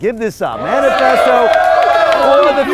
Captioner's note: crowd cheering